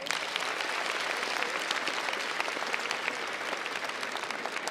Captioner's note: crowd applauds